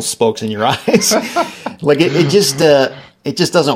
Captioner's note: laughing